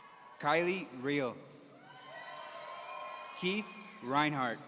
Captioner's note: audience cheering